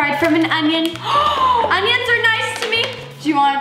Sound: gasps

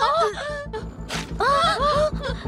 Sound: shrieking

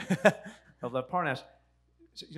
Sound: laughs

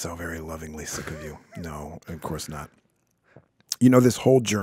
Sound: chuckling

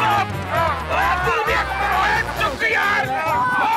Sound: indistinct chatter

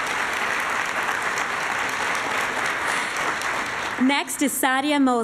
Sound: applause

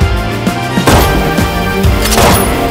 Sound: gun Fire

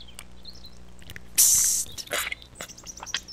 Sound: whisper

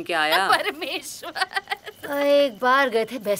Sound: chuckles

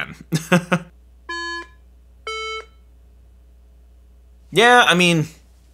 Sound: iPhone beeping

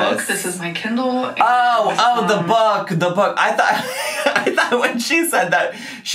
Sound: laughs

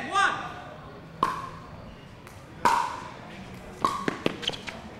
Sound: ball bouncing

